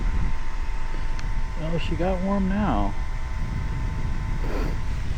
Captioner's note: engine roaring